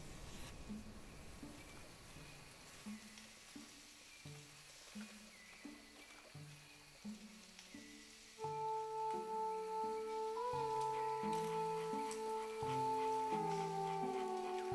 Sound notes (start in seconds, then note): 1.7 leaves rustle, wind gusts